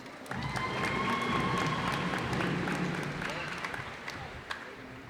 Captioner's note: cheers and applause